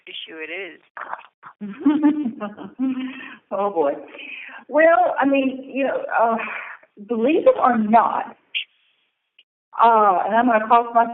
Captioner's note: laughter